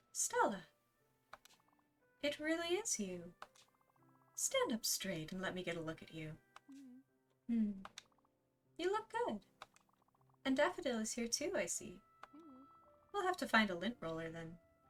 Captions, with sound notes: "Stella! It really is you! Stand up straight and let me get a look at you." *hums* "You look good! Daffodil is here too I see. We'll have to find a lint roller then.